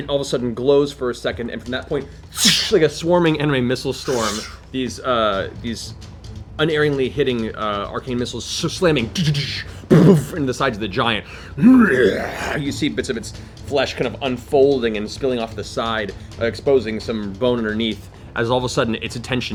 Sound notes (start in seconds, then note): 11.5 growls